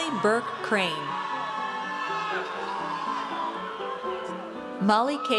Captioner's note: audience cheers